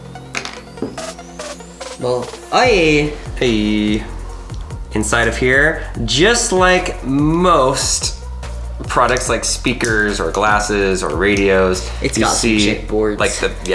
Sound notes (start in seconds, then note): 2.7 exclaims